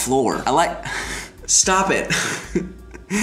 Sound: laughing

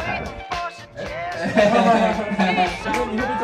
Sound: happy laugh sound

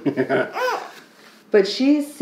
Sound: laughs

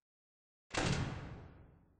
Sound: door noise of failure

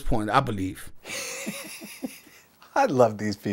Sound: laughing

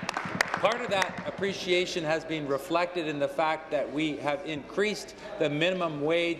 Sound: applause

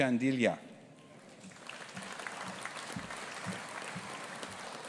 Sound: audience applauding

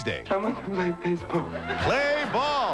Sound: Balki, sobbing

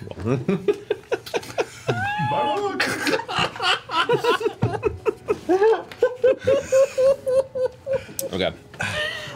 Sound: all laugh

